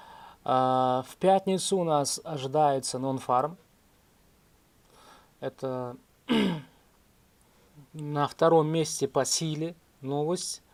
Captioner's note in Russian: откашливается